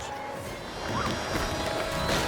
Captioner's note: yells; car crashing